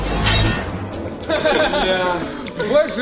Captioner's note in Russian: Смеются